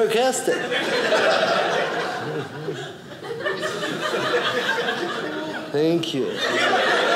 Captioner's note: audience laughing